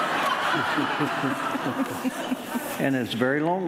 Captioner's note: audience laughing